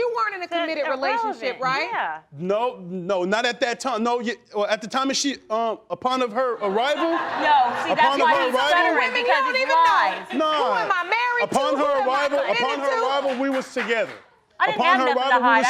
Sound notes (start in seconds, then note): 5.0 stammering; 6.8 crowd laughing